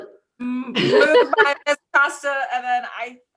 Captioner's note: board laughs